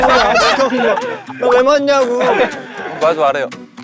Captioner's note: hehee